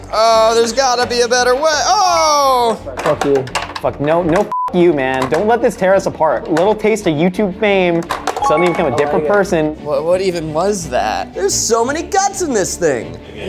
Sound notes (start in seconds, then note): 3.1 beeps